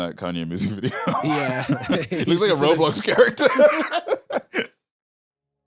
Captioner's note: laughs